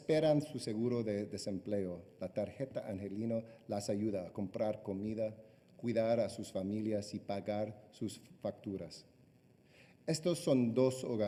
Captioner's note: speaking spanish